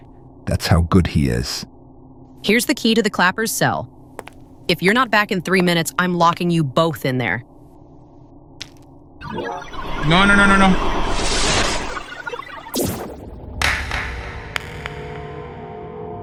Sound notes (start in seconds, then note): 9.2 energy sounds; 11.2 suction sounds; 13.5 dark ambience punctuated with eerie echoes of clapping